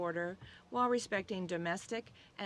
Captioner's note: speaking French